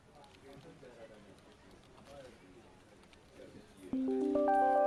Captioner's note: people chattering; calm music